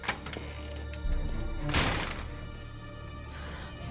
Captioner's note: door closes; breathing heavily